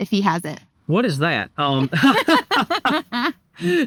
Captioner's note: laughing